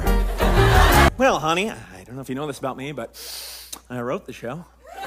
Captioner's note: inhales loudly